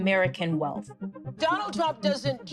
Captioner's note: soundbite of archived recording